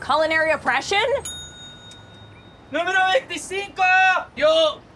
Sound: bell ding

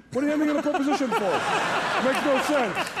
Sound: Conan and audience laugh

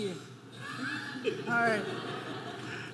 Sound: audience laughing

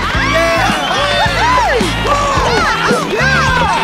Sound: all whooping

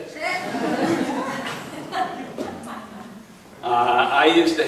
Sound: laughing

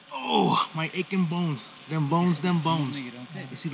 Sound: groaning

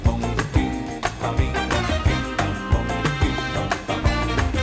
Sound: none

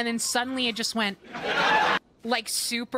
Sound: laugh Track

